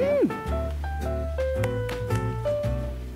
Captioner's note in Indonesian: Bertepuk tangan otomatis